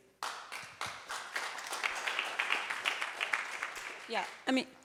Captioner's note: audience clapping